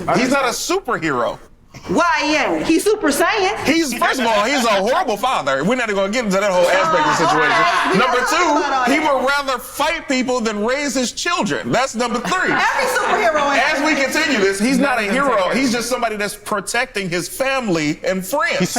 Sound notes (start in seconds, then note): 4.1 laughs; 6.5 group laughs